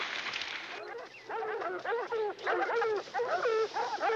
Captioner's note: dogs barking